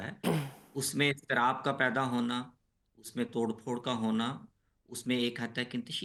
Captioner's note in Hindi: गला साफ़ करने की आवाज़